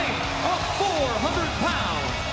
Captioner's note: crowd cheering